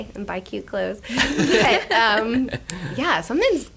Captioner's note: laughter